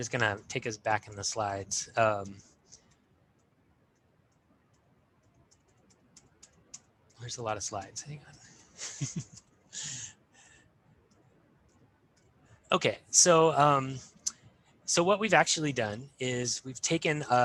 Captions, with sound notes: I'm just gonna take us back in the slides. There's a lot of slides. Hang on. (chuckles) Okay, so what we've actually done is we've taken